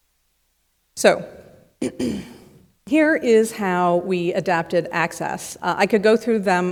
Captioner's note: clearing throat